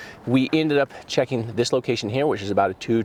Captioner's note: none